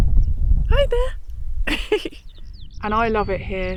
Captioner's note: chuckles